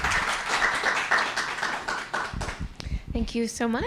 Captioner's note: applause